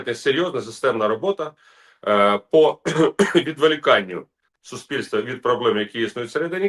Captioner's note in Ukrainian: прочищення горла